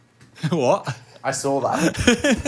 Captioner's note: chuckling